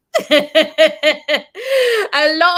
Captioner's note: laughs